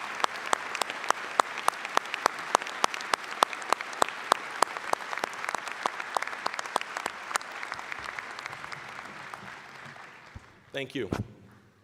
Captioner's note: applause, cheering; applause